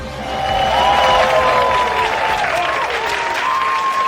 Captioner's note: audience cheering